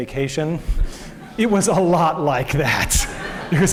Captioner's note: laughter